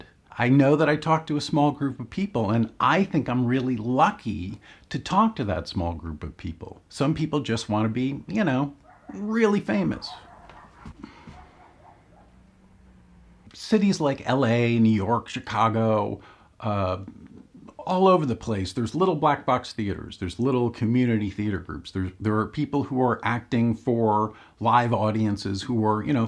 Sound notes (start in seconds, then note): 8.8 dog barking way in the background; 11.0 sigh